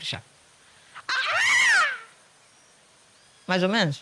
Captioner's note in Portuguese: Imitando o canto de um pavão